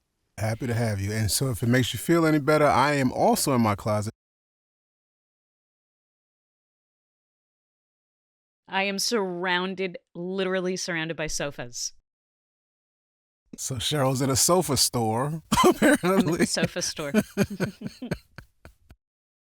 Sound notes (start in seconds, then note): 14.9 guffaws; 18.6 chuckles